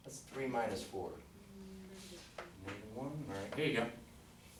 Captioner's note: voiceover